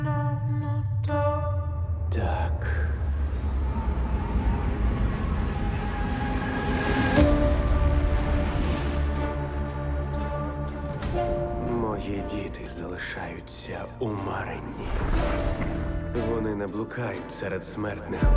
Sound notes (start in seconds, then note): 3.1 wind howling; 7.3 mysterious music continues